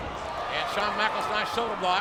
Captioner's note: audience cheers